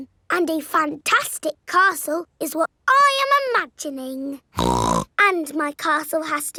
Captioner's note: snorts